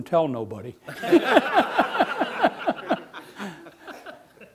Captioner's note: laughing